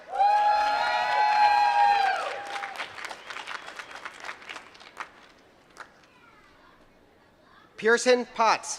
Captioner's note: applause